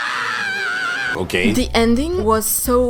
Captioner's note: Armin screams uncontrollably